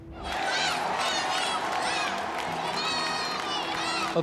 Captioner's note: crowd cheering